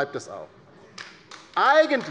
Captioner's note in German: Beifall bei der LINKEN